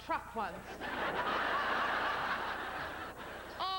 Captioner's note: laughter